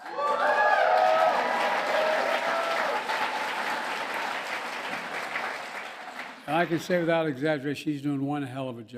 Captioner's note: applause